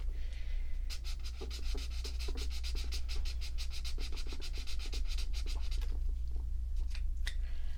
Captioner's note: swatching sounds